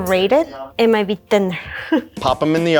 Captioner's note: laughs